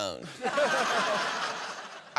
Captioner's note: laughter